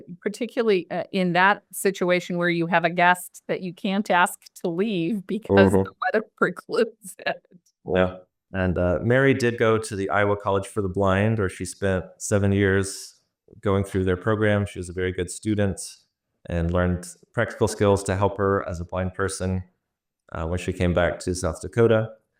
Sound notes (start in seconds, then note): 8.6 laughs